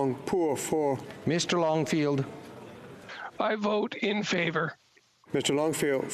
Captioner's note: speaking FRENCH